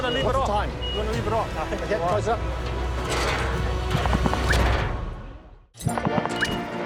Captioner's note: clattering; whoosh!